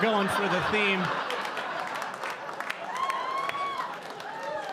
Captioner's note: audience laughing